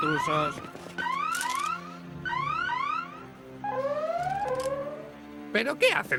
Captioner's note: siren